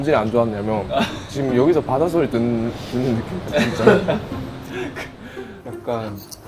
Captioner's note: such wave like noise